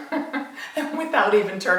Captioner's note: laughs